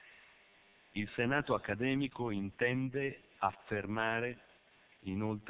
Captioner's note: Italian